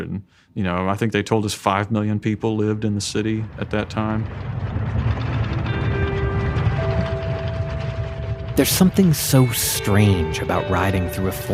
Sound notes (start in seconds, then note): 4.9 tank engine roaring